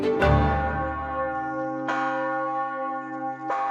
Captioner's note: bell ringing